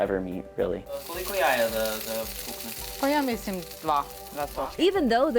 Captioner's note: speaking in foreign language